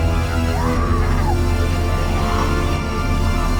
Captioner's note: dramatic music; Miss. Fang screaming; dramatic music